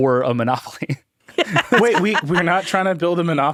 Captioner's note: laughing